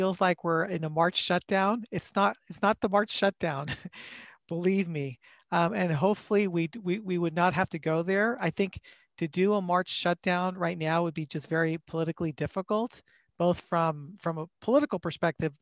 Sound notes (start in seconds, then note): 3.6 laughter